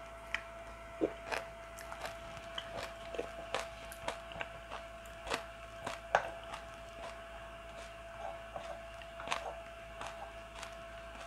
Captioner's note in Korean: 콩나물 씹는 소리